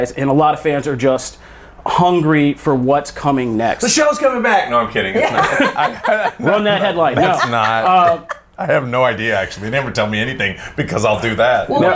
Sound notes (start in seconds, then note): 5.1 laughter